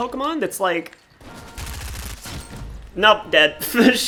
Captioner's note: gunfire